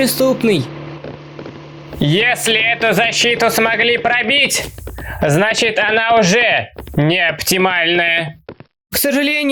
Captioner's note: steps